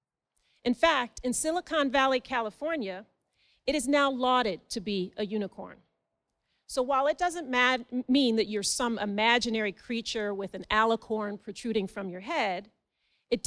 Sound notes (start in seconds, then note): none